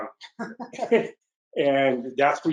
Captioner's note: laughs